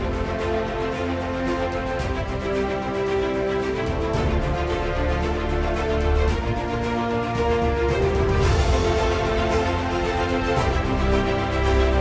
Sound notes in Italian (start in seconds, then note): 7.2 Applauso